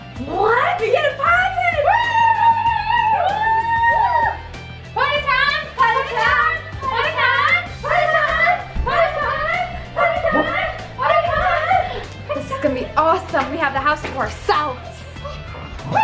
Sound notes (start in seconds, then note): 2.0 all cheering; 10.2 Logan barks